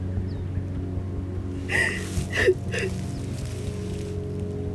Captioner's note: sobbing